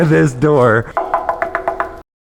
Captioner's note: knocking